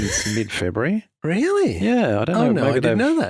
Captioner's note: chuckles